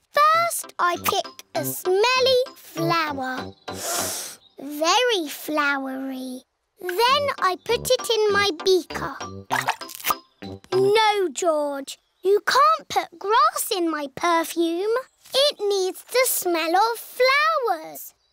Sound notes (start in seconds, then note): 3.8 sniffs